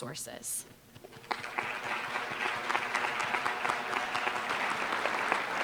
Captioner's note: applause